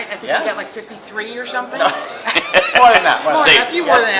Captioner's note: all laugh